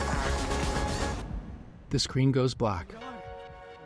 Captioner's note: heartbeats